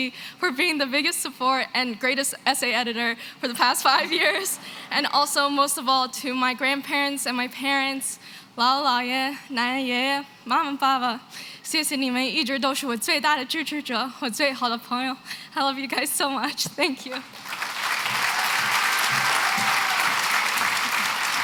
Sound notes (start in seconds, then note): 8.5 non-english; 17.2 cheering and applause